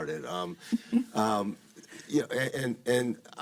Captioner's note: moderator laughing